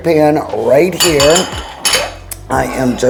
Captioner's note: bowls clinking